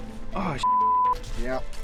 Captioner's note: beep